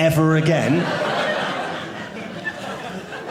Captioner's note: audience laughing